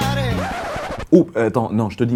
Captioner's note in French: Scratch